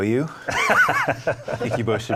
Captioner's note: laughing